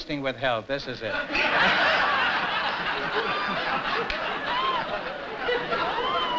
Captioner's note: laughter